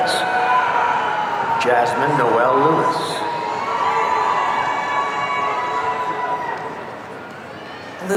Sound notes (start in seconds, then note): 3.7 audience cheering